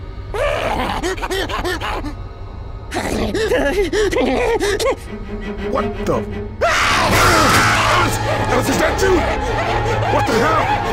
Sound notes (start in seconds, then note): 0.4 more laughing; 6.6 jockey scream!